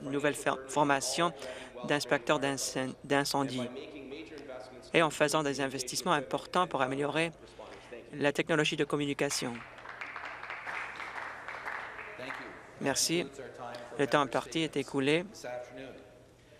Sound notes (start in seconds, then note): 12.5 some Applause